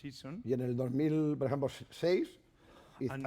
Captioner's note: speaking spanish